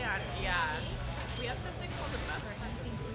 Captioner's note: static crackling